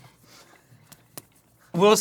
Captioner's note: double soft slap